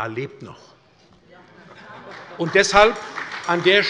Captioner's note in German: Heiterkeit - Beifall bei der SPD sowie bei Abgeordneten der CDU und der LINKEN